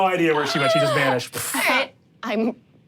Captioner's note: makes poof sound